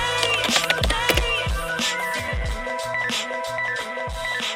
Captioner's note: keyboard clacking; upbeat music